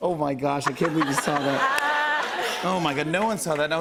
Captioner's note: laughter